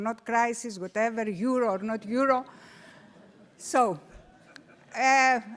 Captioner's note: audience laughing